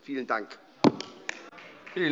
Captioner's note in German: Vereinzelter Beifall SPD